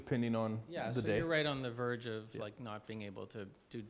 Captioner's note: voiceover